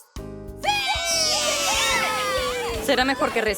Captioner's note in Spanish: Los niños gritan